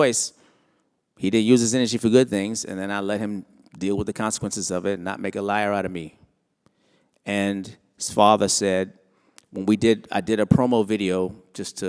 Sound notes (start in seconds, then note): none